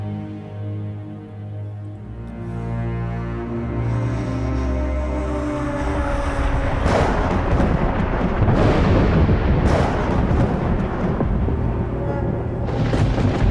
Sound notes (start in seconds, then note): 0.2 dramatic music continues; 5.2 thunder roars; 5.9 air blowing